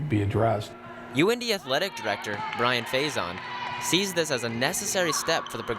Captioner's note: voiceover